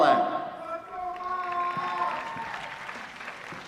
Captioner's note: applause